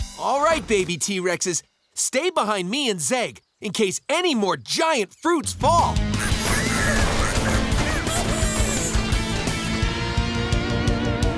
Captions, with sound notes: All right, baby t-rexes. Stay behind me and Zeg in case any more giant fruits fall. [babies squeaking and laughing]